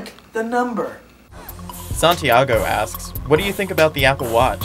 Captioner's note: voiceover